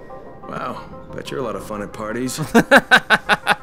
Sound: voiceover; laughs

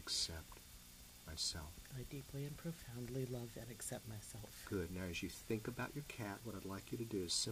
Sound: none

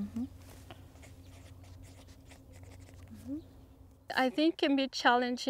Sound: pen scratches

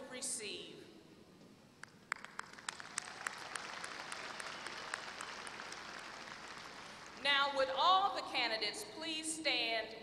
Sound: applause

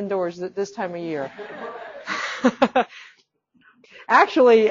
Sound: all laughing

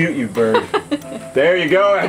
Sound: laughs

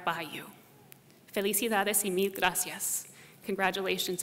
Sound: speaking spanish

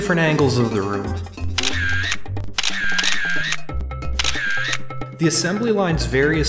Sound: camera shutter closing

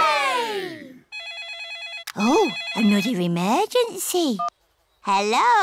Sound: phone rings

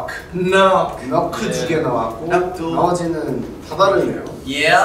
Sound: speaking Korean

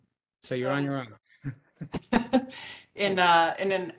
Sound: laughs

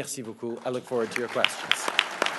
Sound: applause

